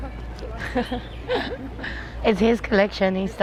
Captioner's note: laughing